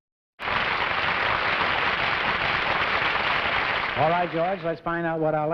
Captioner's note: applause